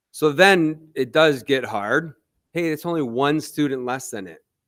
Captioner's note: none